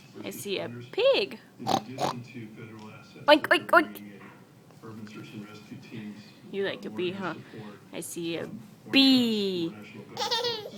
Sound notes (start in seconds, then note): 1.6 oinks; 10.2 laughing